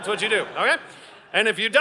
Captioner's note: audience laughing